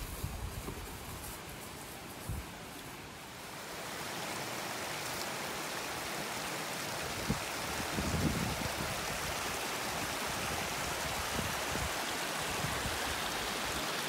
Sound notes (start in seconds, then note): 3.6 rolling stream and occasional wind